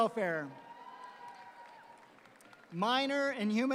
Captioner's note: audience cheers